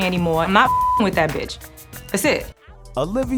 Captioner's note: beep